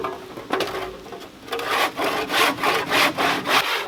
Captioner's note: sawing